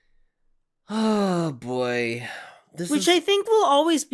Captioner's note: sighing